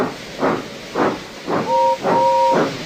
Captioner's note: gordon whistled